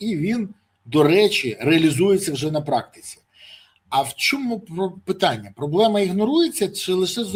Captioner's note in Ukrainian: сопіння